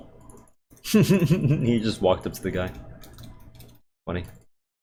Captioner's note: laughs